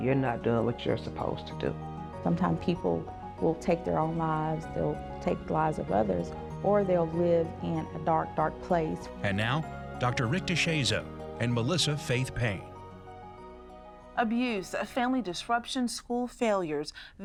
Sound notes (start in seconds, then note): 9.1 voiceover